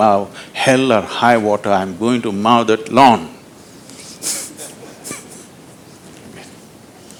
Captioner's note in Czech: Smích